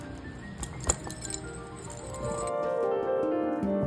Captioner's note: bells jingling